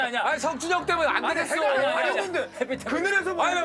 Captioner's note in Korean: 웃음 소리